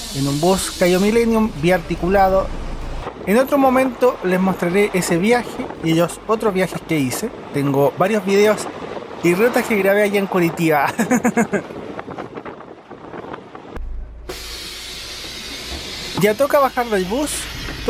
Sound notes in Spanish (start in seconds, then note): 10.8 risas